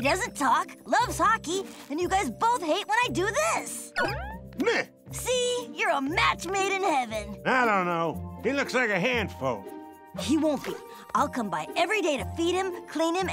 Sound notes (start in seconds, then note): none